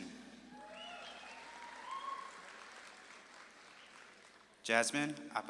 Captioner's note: audience claps and cheers